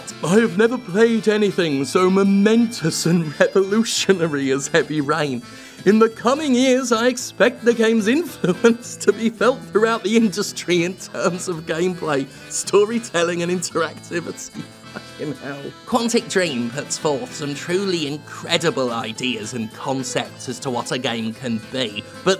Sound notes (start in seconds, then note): 3.0 chuckles; 9.0 chuckles; 11.0 while chuckling; 14.3 chuckles; 15.8 nasal reading